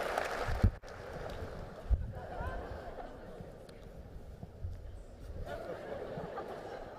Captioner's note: applause; laughter